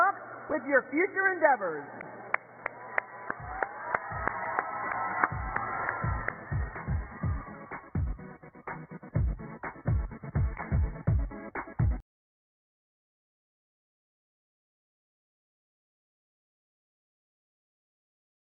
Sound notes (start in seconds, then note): 6.0 cheers and applause